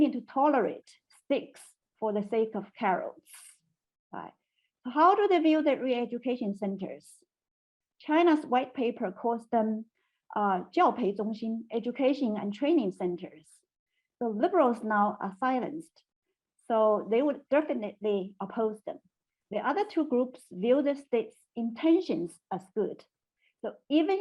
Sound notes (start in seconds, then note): 9.6 speaking in Chinese